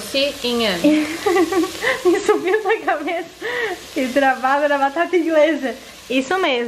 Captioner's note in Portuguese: rindo